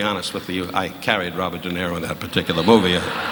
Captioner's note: audience murmuring